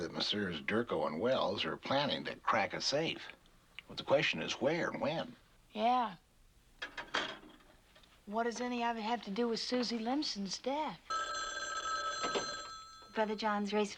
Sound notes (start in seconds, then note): 11.0 phone rings